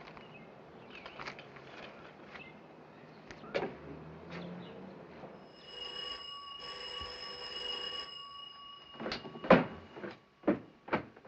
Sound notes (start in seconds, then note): 5.4 telephone ringing; 5.7 footsteps on stairs